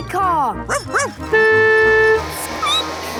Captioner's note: barking; squeaking; honking